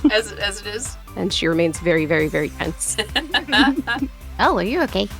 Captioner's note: chuckles